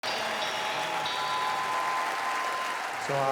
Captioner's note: audience cheering